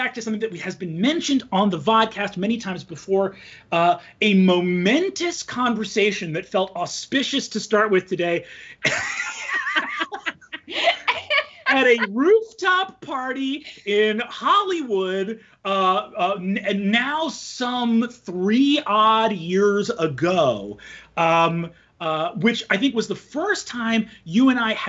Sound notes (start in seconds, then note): 8.8 both laughing